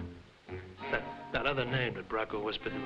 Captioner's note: guy chuckling